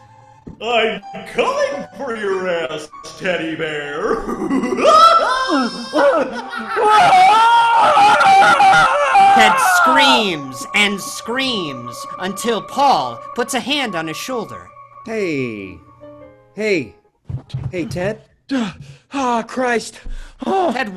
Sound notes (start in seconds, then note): 4.0 laughing; 7.1 Ted screaming